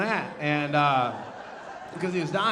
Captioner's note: audience laughing